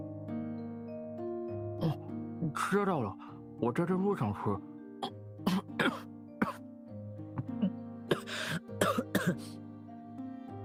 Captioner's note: cough